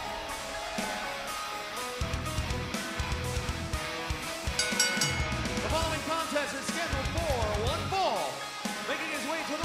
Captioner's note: cheers and applause